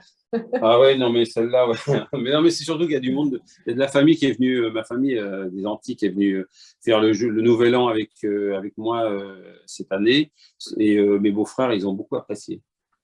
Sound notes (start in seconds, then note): 1.6 laughter